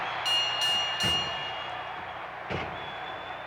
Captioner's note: bell ringing